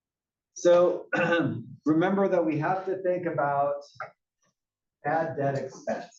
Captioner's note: cough